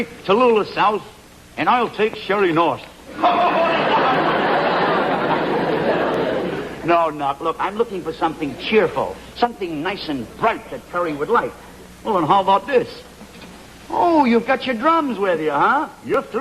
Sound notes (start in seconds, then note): 3.2 laughter